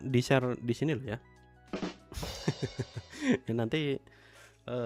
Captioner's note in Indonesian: tertawa